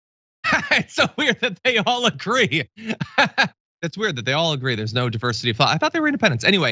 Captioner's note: laugh